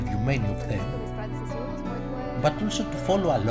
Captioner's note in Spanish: Hablando búlgaro